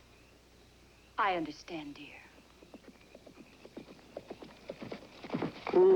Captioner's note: horse Approaching